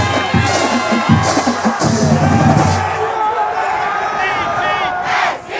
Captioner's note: crowd cheering